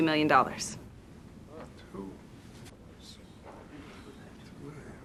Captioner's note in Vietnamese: xì xầm